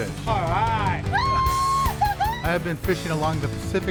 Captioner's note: woman joyfully yells